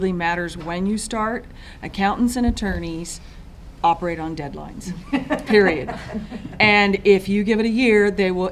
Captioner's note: laughter